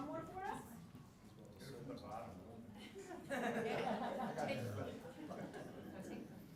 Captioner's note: laugh